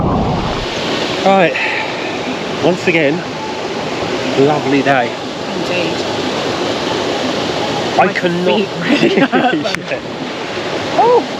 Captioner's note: laughs